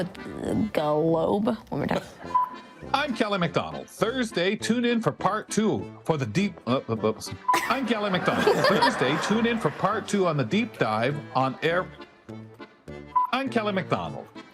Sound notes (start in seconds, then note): 7.5 attendees laughing; 11.7 mischievous folk music